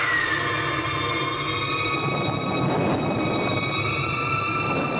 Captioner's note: thunder crashing